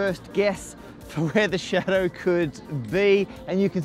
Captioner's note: chuckling